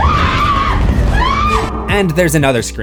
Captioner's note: screams